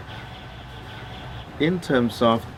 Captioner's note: birds chirping